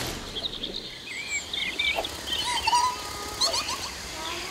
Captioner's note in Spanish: Sonido de bosque